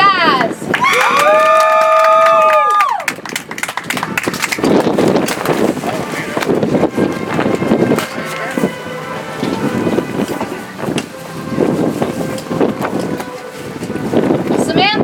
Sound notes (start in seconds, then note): 4.5 audience applauds; 9.8 soft music